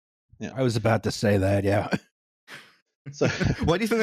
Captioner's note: laughter